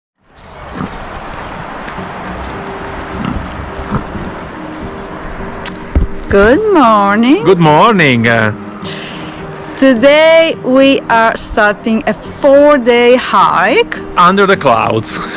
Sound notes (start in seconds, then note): 1.4 pig oinks